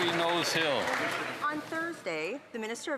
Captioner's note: some Applause